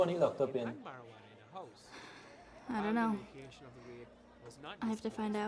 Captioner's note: sighs